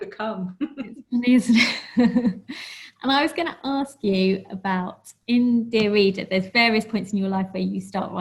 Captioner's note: laughs